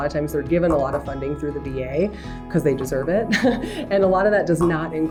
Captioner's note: chuckles